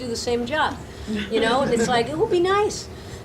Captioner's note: audience laughing